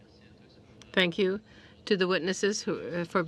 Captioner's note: speaking French